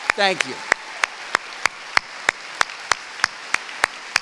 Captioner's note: cheering